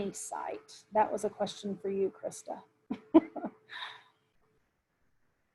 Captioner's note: chuckles